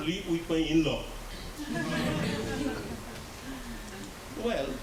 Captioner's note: laughter